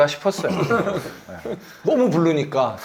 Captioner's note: ahem